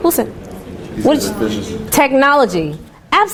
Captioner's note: students murmuring